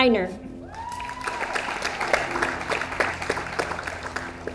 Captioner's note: audience applauds